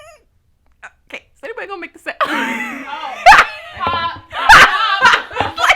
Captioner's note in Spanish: Risas